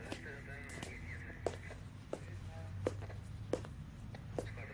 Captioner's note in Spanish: Voces en el radio